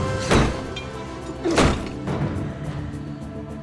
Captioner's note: intense dramatic music; door lock clanging; intense dramatic music